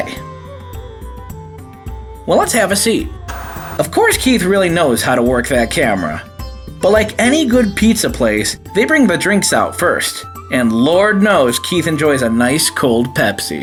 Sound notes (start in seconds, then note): 0.1 gentle instrumental music; 3.3 TV Static